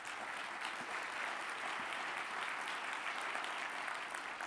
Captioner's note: audience applauding